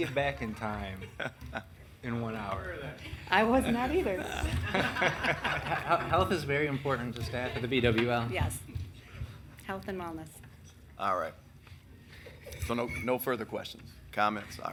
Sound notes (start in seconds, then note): 1.0 laughing; 4.2 council members laughing; 12.1 council members chuckling